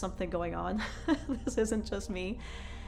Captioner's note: laughs